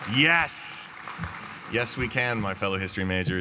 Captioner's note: cheering